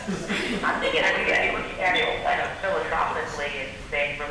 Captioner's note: audience laughing